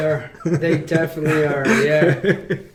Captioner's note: laughing